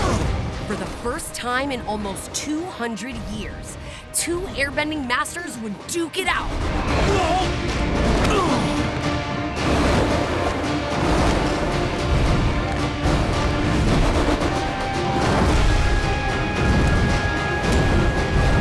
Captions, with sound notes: For the first time in almost 200 years, two airbending masters would duke it out. [grunting]